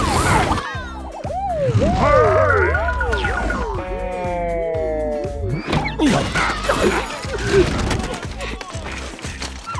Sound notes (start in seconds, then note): 1.7 sound distorting